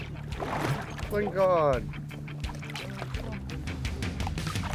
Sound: fish splashing

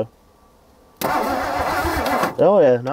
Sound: vehicle engine humming

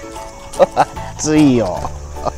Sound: laughs

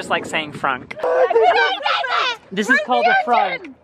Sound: yelling

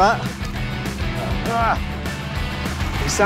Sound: groans

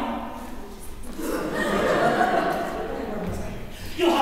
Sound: laughter

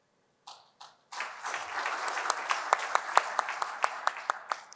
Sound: applause

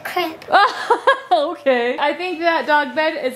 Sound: laughs

